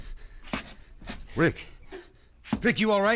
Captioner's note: footsteps thudding; hand slaps